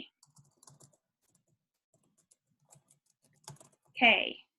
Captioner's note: keyboard clanking